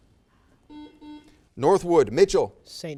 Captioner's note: buzzer